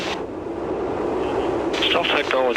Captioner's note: high altitude noise